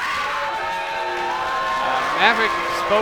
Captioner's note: crowd cheering